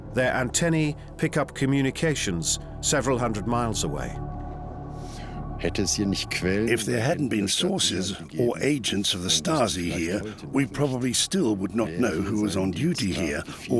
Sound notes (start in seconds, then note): 5.4 speaking German